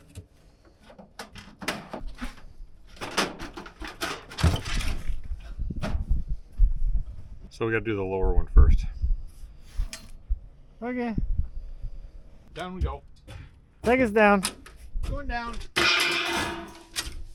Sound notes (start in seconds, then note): 3.0 metal clanging